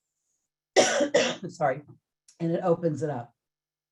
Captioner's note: coughs